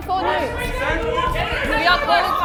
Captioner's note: everyone yelling